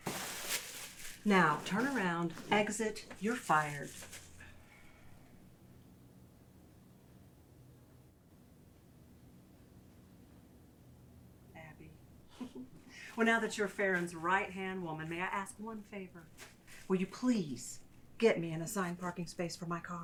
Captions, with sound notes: Now turn around, exit. You're fired. Abby (Paulina laughing) Well, now that you're Pharon's, right hand woman, may I ask one favor? Will you please get me an assigned parking space for my car?